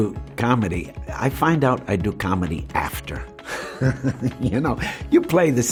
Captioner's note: laughs